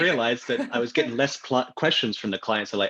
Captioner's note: laughs